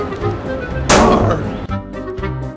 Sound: bang!

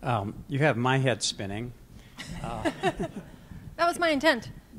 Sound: laughter

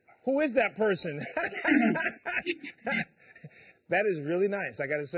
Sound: laughs

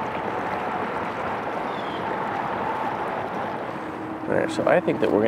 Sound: vehicles whooshing; birds calling

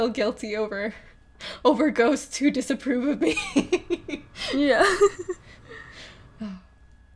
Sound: laughs

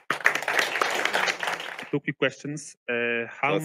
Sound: audience applauding

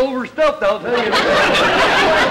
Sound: audience laughter

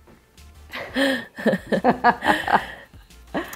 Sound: both laugh

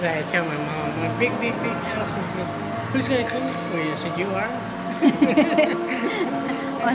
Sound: laughing

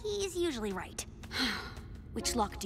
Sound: sighs

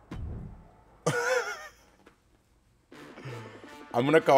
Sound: laugh; laugh

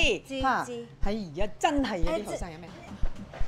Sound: in Cantonese

